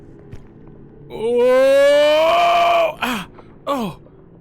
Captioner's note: Skull yells; makes splattering noises